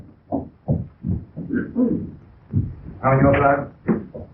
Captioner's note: pounding